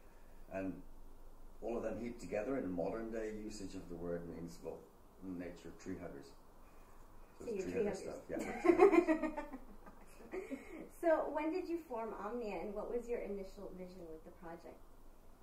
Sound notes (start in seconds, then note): 8.3 giggles; 8.4 laughing